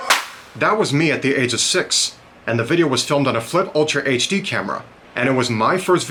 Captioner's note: single clap